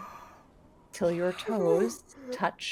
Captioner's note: person gasping